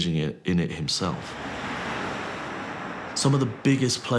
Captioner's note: traffic rumbles